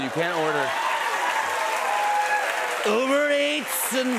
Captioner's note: cheers and applause